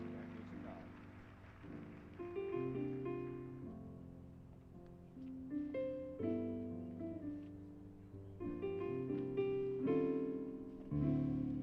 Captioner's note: applause